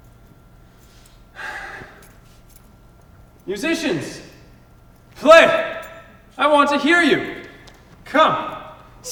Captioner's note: sighs